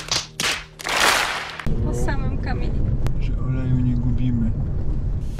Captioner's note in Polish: Aplauz